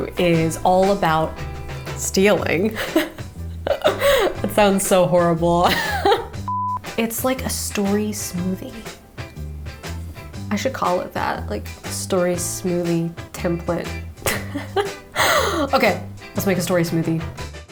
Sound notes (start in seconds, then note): 2.6 chuckles; 5.9 laughs; 6.3 camera beeps; 14.2 laughs